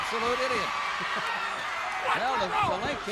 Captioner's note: chuckles